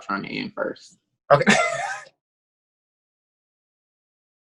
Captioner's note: laughs